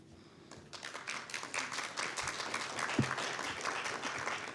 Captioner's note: audience applauding